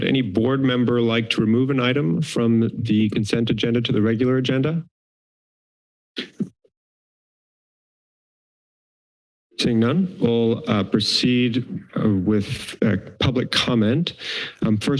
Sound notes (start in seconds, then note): 6.2 pause